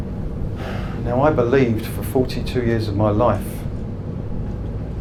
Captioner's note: sighs